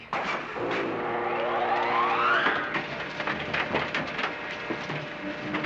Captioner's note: machine whirring